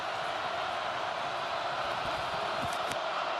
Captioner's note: crowd cheering